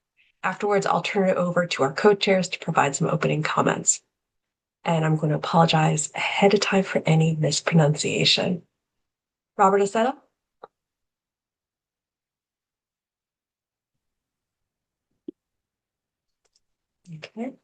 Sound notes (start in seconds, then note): 13.5 pause